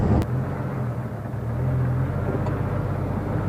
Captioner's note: engine sounds